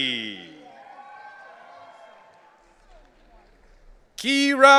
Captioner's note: audience cheering